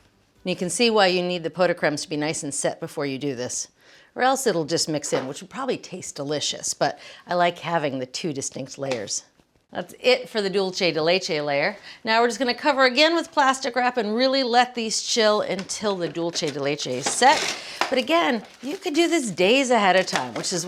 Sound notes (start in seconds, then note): 16.8 plastic ripping